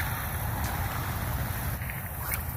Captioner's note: sling whips; splash; sling whips